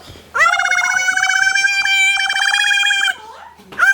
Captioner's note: high pitch noise